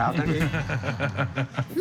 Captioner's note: chuckling